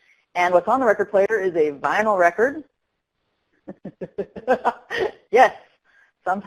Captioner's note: laughter